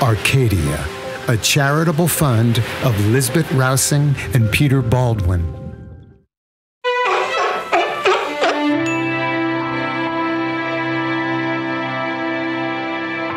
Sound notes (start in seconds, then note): 6.9 the Seal is Barking!